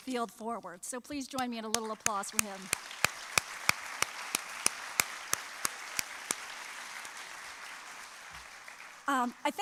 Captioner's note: applause